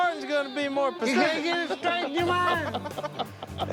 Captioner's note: laughter